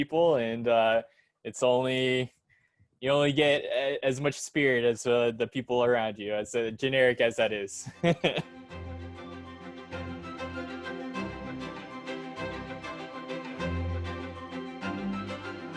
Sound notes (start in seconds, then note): 8.0 laughs